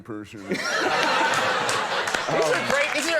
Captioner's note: audience laughing; applause